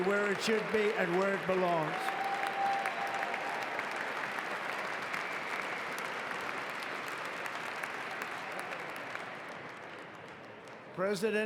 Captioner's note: applause